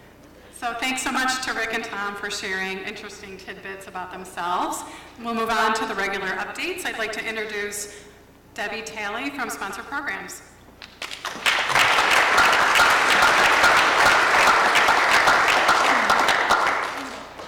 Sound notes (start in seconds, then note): 14.2 applause